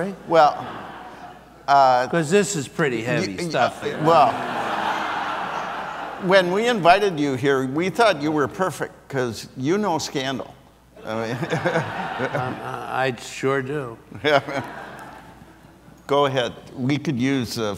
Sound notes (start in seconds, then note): 3.6 audience laughs; 11.1 audience laughs; 14.1 laughs